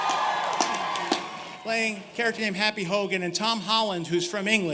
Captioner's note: cheers and applause